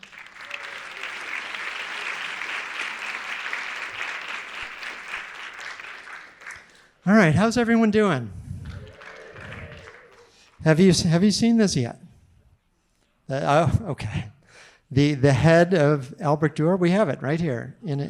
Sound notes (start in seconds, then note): 0.0 audience applauding; 8.6 audience members cheering